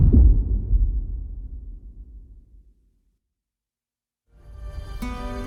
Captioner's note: dramatic sound